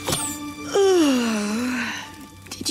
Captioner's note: yawns